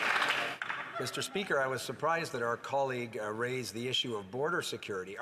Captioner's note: some Applause